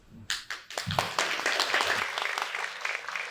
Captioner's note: crowd claps